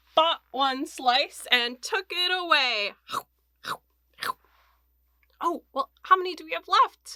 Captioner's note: eating noise